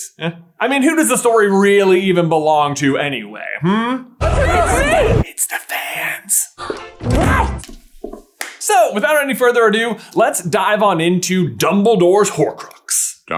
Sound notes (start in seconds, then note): 5.3 sotto voce